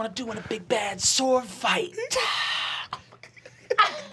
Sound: laughing

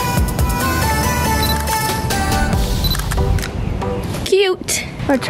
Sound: camera beeps and clicks; camera beeps and clicks

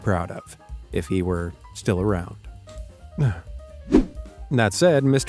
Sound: sighs

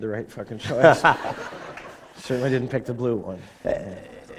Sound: laughter

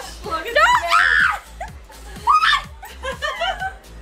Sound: laughs

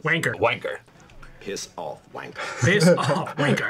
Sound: laughs

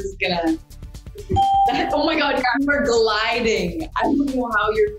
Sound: ding

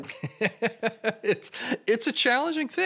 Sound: laugh

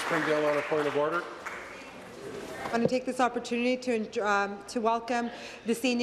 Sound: applause

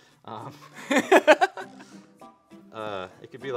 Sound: laughs

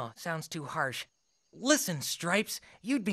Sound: jungle sounds playing

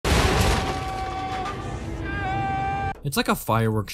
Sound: panicked Screaming

